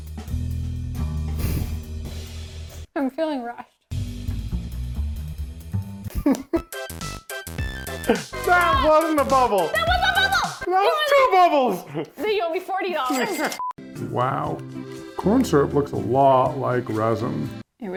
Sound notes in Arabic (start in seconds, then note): 4.4 موسيقى مفعمة بالحيوية; 7.1 موسيقى مبهجة; 13.2 تسجيل الدقات النقدية